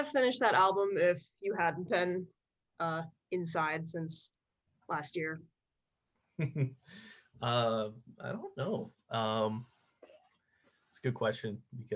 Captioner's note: chuckles